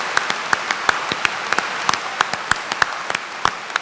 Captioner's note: applause